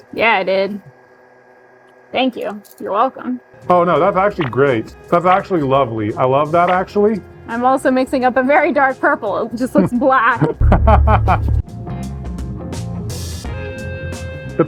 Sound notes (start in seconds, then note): 10.4 laughing; 12.0 smooth music